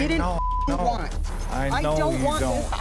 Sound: beep

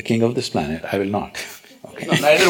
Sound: laughs; laughter

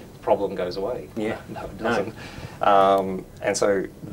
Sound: giggles

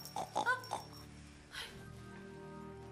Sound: snorts; gasps

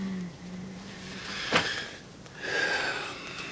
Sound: sighs

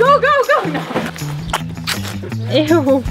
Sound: sucking sound

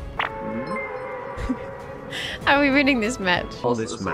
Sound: laughs

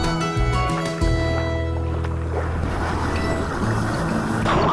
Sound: waves come crashing down like the joy of meeting friends

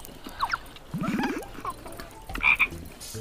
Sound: hahahaha

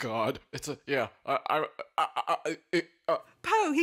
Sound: stammering

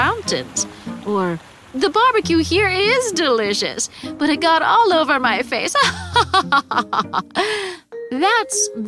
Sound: laughs

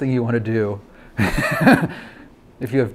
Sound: laughs

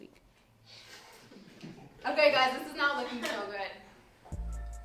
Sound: students laugh

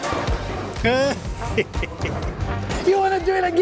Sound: laughing

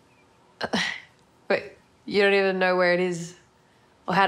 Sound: laughs

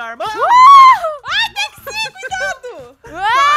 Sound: cheers; laughing on background

